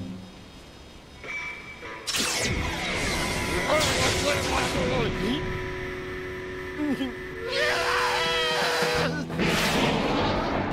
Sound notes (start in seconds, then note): 7.4 screaming, whistle blowing